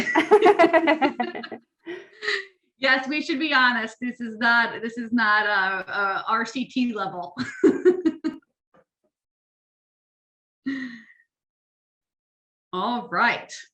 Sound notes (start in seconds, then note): 0.0 laughter; 7.4 laughs